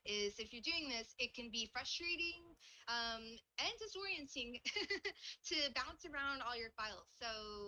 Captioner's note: laughs